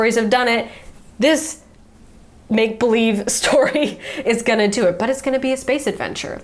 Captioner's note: chuckles